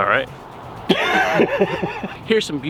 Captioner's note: laughing